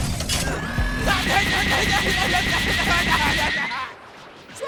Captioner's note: grunts